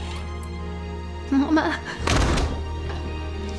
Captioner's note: door shuts